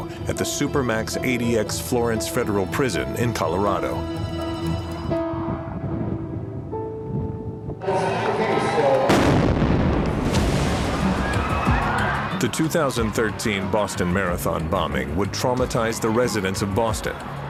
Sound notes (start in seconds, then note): 4.7 grim music; 9.0 explosion; 11.1 panicked screaming